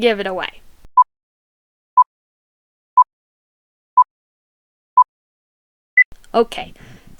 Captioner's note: 5-second countdown beeps